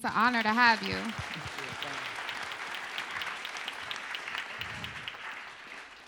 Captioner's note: applause